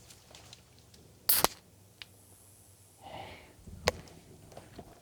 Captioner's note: can popping